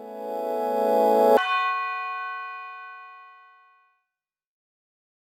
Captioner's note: light electronic chime